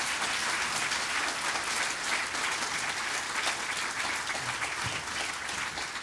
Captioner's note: applause